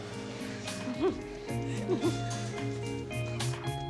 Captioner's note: giggling